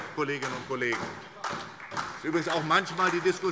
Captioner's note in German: Beifall SPD